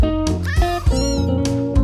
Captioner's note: meowing & mewing